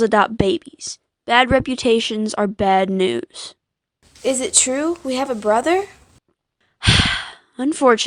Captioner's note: sigh